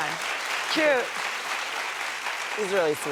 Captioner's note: applause